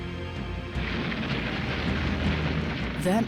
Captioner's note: explosions bursting